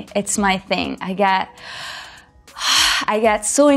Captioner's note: deep breath